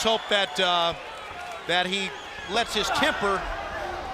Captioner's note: crowd cheering